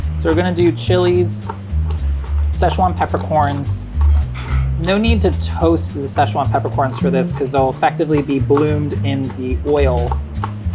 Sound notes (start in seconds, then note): 1.3 chilies crunch; 1.7 soft jazzy music